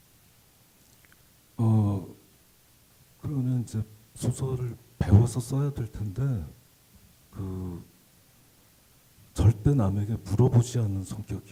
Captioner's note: speaking Korean